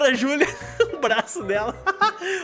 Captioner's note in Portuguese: risos